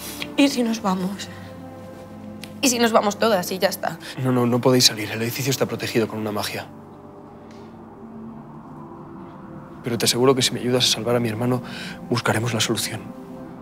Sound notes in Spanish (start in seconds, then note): none